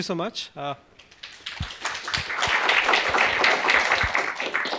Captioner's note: applause